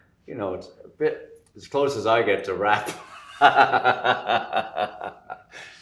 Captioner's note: laughs